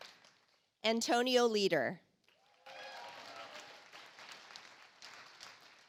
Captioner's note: audience applauds